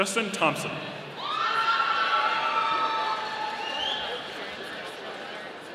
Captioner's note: audience cheering